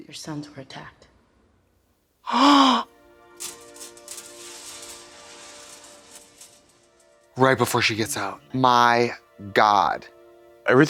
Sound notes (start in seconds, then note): 2.2 Trixie gasps; 2.3 emotional music